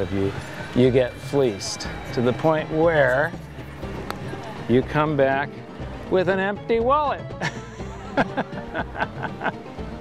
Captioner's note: laugh